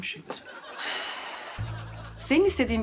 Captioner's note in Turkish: İç çekme sesi